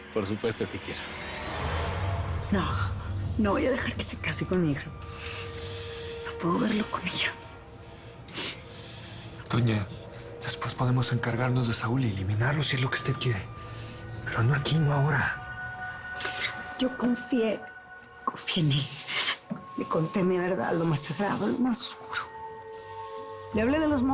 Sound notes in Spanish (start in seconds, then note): 8.5 Sollozos